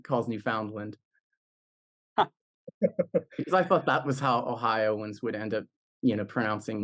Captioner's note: laugh